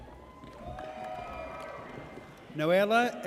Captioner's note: audience cheers